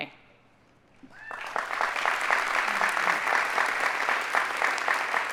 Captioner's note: audience applauding